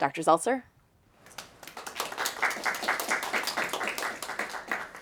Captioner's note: audience clapping